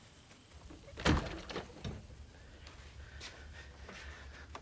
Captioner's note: door clunks